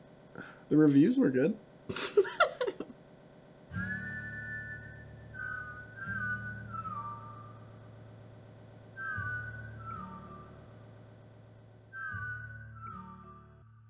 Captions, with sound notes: - The reviews were good. (Lillian laughs) (cheerful music)